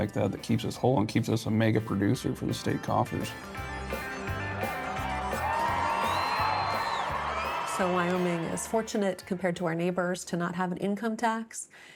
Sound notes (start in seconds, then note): 3.7 upbeat country music; 4.0 crowd cheers